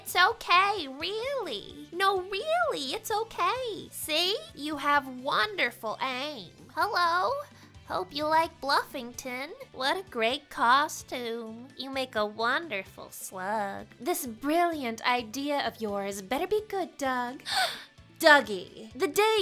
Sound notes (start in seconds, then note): 17.5 inhales sharply